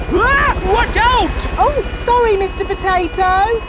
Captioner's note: screams